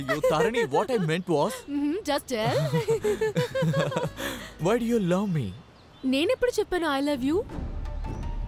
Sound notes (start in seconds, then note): 2.4 both laughs